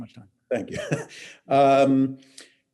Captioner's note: laughs